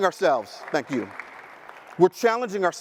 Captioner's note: audience applauding